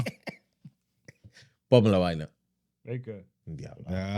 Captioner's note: laughing; speaking Foreign Language